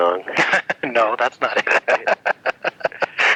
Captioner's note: laughs